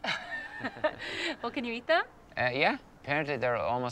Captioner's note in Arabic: يضحك